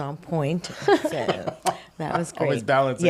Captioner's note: laughing